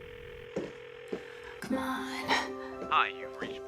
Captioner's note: phone ringing